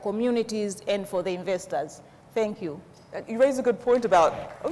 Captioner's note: audience applauds